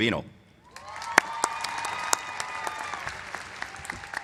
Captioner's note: applause